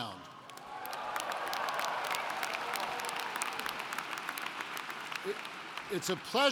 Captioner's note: applauding